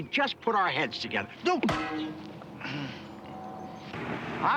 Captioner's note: thuds